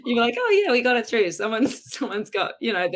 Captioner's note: laughs